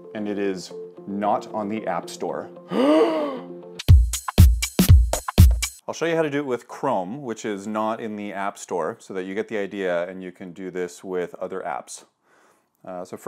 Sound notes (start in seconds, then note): 2.6 gasping; 4.3 upbeat music